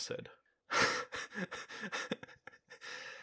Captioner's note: laughter